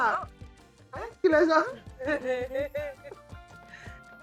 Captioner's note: laughs